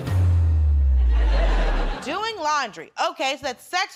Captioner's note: laughter